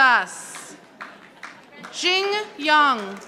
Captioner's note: audience applauding